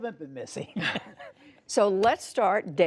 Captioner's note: laughter